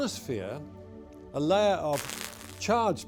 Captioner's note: crackling